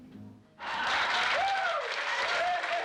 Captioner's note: audience cheering, applauding